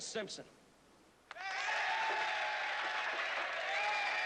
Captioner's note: cheering